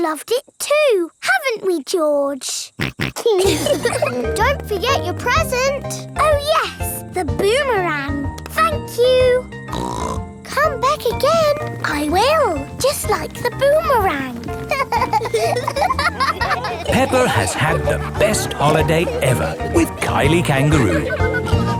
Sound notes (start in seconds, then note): 2.8 snorts; 3.1 laughs; 9.7 snorts; 14.4 laughing